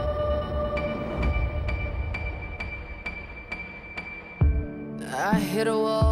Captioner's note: metallic, ticking sound, then ebbs down dramatically